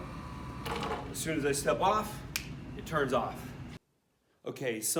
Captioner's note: fingers snap